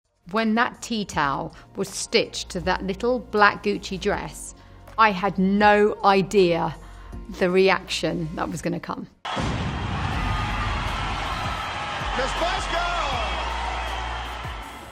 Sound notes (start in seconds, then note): 9.2 cheering